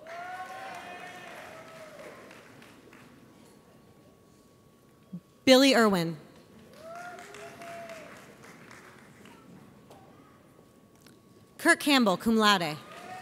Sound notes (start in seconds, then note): 0.0 audience applauds; 6.5 audience applauds